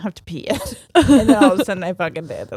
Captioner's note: both laughing